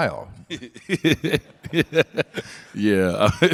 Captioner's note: Dwyane and audience laugh